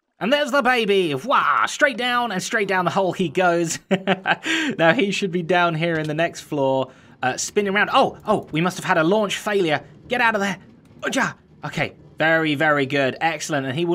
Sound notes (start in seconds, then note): 3.8 chuckles